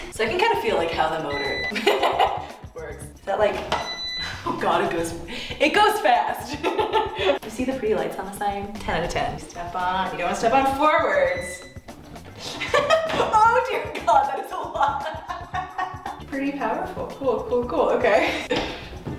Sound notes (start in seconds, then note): 1.7 laughs; 3.8 beeping; 12.4 laughs